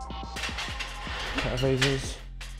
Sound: metal cranking

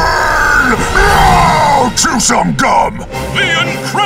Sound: roaring

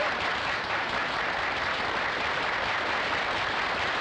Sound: audience applauding

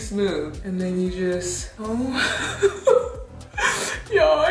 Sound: laughs

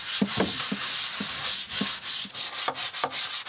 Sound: brush scrubbing

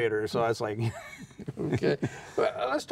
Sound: laughing

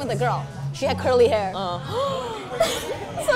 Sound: gasps

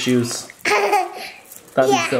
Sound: laughing

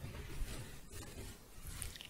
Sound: scratching

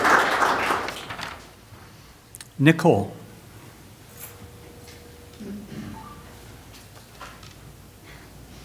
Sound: applause

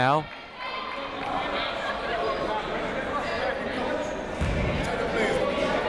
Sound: people shouting in the crowd

